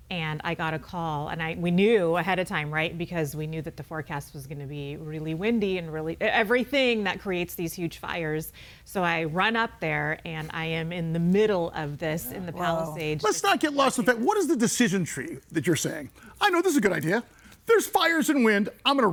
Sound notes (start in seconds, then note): none